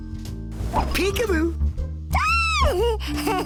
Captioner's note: laughing